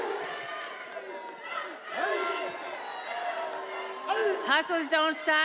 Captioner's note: attendees cheering